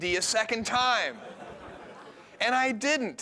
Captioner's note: laughter